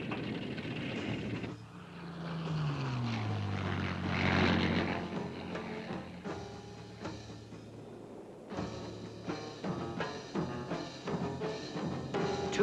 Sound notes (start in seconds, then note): 2.3 engine roaring; 8.9 suspenseful music